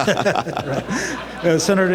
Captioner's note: laughter